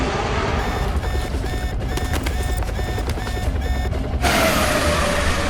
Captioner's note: alarm